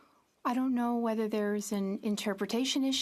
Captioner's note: speaking French